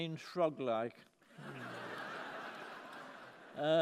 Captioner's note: laughter